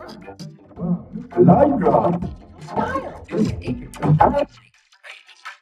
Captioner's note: grumbles